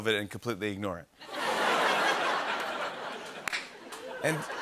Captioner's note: laughter